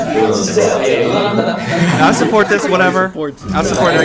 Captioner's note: haha